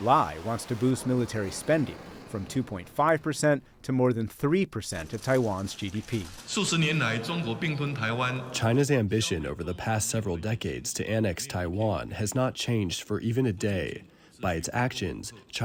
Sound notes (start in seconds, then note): 8.8 through translator